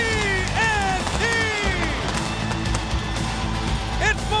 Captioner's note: fireworks bang; upbeat music continues